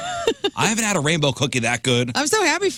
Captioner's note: laugh